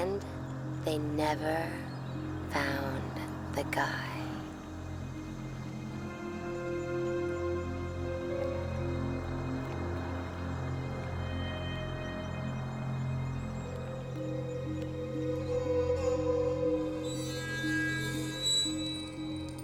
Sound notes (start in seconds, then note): none